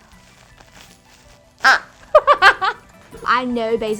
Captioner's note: squeaking; laughing